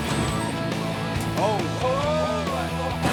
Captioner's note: heavy thudding; laughing